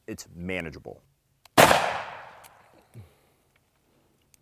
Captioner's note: gun shooting